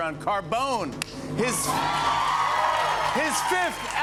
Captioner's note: cheers and applause